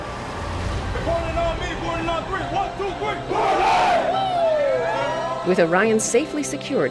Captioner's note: cheering